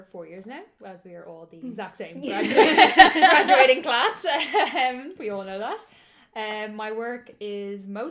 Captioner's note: laughter